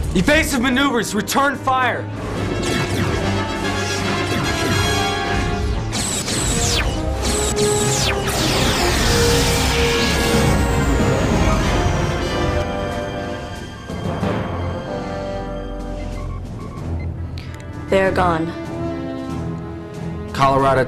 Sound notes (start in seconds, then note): 10.4 explosion